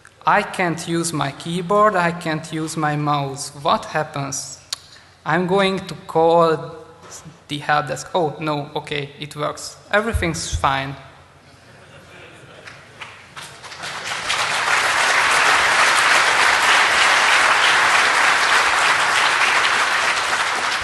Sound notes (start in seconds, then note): 11.0 applause